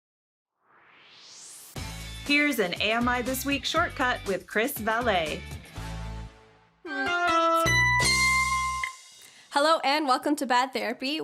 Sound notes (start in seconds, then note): 0.6 swoosh; 6.6 theme music